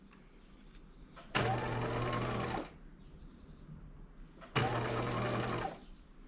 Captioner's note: sewing machine whirring